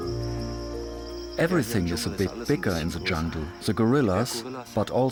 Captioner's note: in German